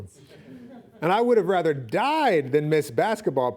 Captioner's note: laughing